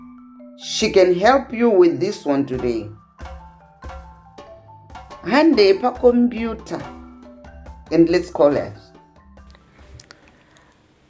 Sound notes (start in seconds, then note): none